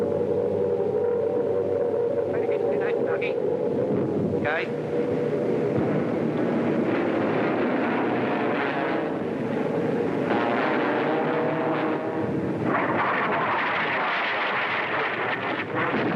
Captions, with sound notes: - Any time today, Dougie. - Okay. (plane engines roar)